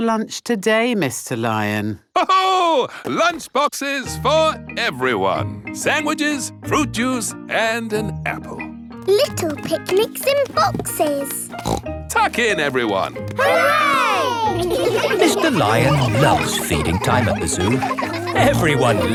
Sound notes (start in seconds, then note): 2.7 laughs; 11.5 snorts